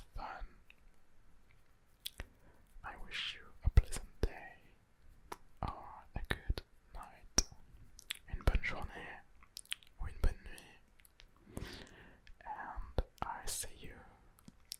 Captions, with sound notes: fun. I wish you a pleasant day or a good night. (french) Une bonne journée ou une bonne nuit.